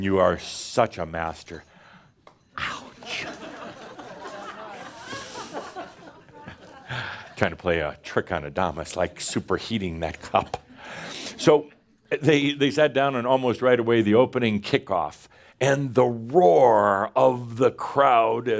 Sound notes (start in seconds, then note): 3.1 laughter